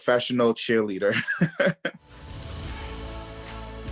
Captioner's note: laughs